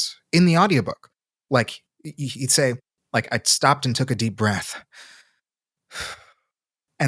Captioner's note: exhales